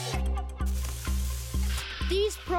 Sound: echoing; buzzing

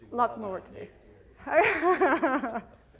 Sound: laughs

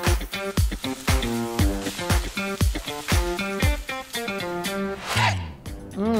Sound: food sizzling; upbeat instrumental music

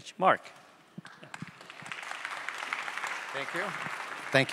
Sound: audience applauding

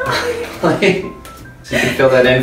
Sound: laughter

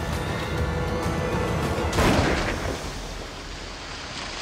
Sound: gunshot

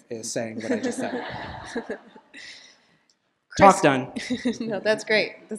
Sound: laughter

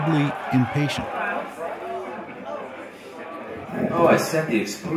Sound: everyone chattering

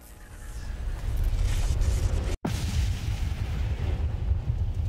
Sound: explosion

